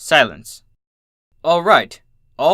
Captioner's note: silence